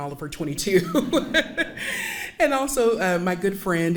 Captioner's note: laughing